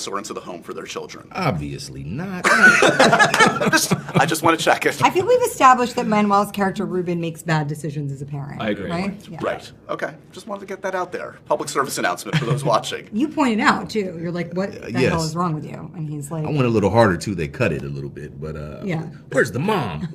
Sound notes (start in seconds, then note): 2.4 laughter